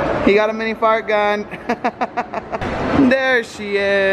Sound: laughing

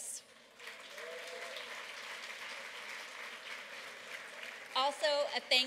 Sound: applause

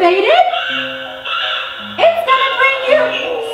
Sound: crows cawing

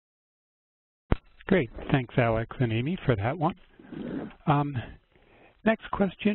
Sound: voiceover

